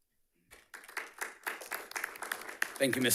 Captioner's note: audience clapping